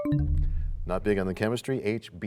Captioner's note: bell chimes, time expires